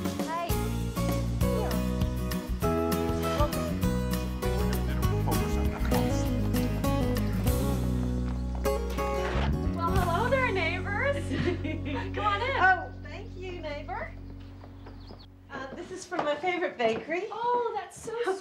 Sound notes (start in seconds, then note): 4.3 both chattering